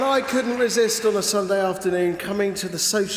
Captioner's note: applause